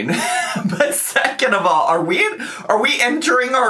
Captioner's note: laughs